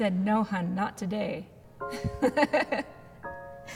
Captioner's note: laughs